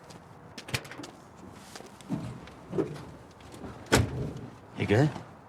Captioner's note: door banging; door clicks and bangs